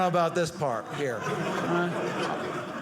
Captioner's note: audience laughing